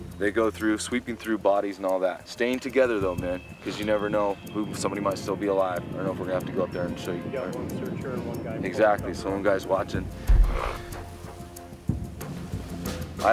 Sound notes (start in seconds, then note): 7.6 voiceover